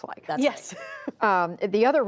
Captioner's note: laughter